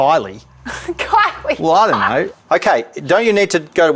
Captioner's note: laughing